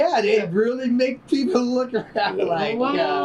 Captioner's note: laughter